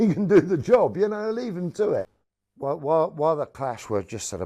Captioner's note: laughing